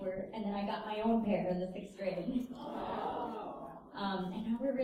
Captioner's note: audience 'awws'